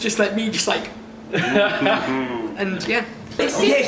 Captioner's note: laughs